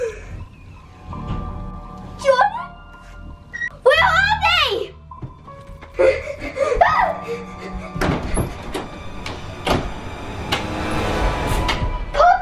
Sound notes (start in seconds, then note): 0.1 gasps; 6.0 panting; 6.9 screams; 7.9 door slams shut; 10.8 ominous music continues